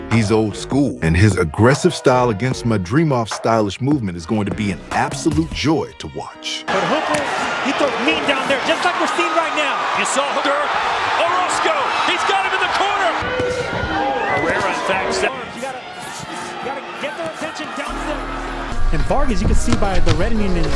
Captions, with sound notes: He's old school. And his aggressive style against Madrimov's stylish movement is going to be an absolute joy to watch. (CROWD CHEERING)